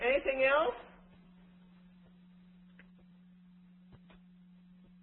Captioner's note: silence